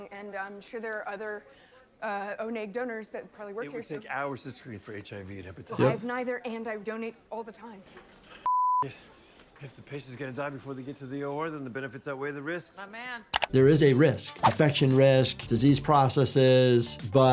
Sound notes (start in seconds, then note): 8.4 beep